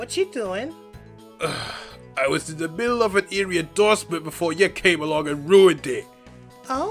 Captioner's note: sighs